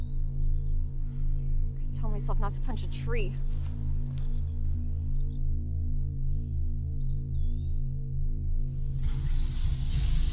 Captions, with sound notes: I could tell myself not to punch a tree. (birds chirping) (ethereal music)